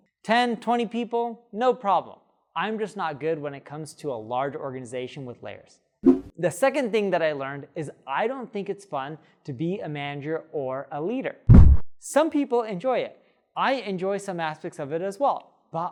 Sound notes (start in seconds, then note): 11.5 air whooshing